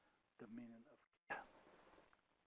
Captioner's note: speaking foreign language